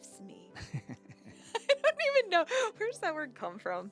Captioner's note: laughing